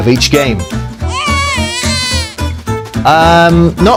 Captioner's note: baby screaming